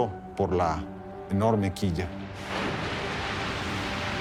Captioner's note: in Spanish; water crashing